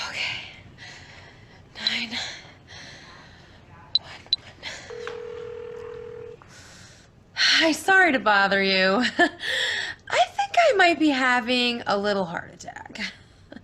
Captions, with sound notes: 9-1-1. (phone dialing) Hi, sorry to bother you (chuckling), I think I might be having a little heart attack.